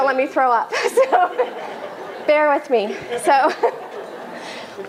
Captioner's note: laughter